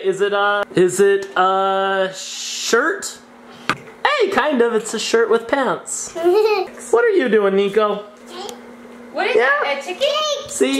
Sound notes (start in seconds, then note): 6.1 giggles